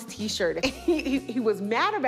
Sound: laughs

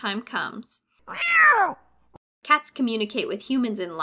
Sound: cat angrily growls

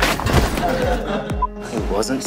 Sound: laughter

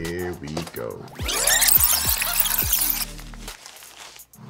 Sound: fast-forward screeching

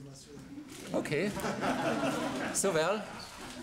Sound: laughter

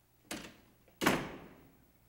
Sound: door slams

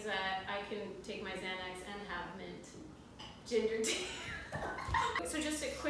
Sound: laughter

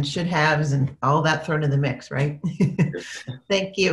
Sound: laughs

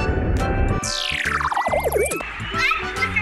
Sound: futuristic chime

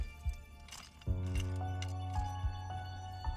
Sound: rattling

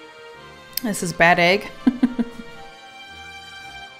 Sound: laughs

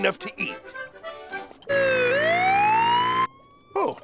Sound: siren blaring

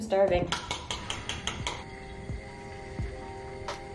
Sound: beating eggs

